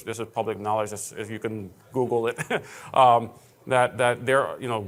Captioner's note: laughing